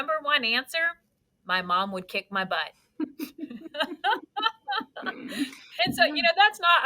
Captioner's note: both laughing